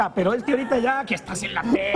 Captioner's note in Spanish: risas